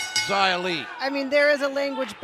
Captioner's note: bell ringing